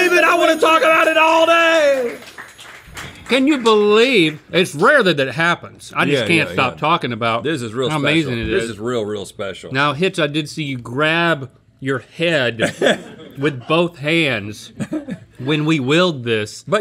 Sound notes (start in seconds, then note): 3.0 crew applauding